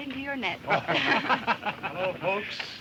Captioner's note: group laughs